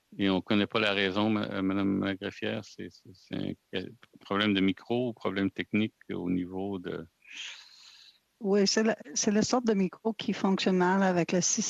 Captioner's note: speaking French